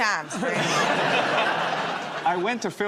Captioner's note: laughter